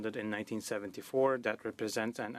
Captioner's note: speaking French